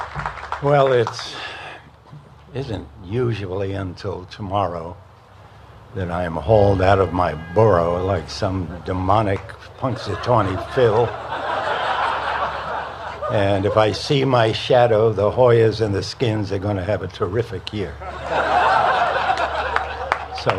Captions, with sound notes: >> WELL, IT DIDN'T USUALLY UNTIL TOMORROW THAT I AM HAULED OUT OF MY BOROUGH LIKE SOME DEMONIC PUNXSATAWNEY PHIL. [LAUGHTER] AND IF I SEE MY SHADOW, THE HOYAS AND THE SKINS ARE GOING TO HAVE A TERRIFIC YEAR. [LAUGHTER]